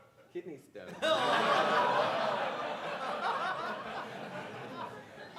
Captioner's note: audience laughing